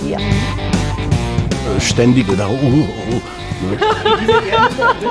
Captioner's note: laughter